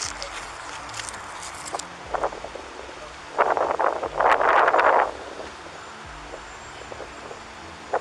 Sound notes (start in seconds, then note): 4.8 wind rustling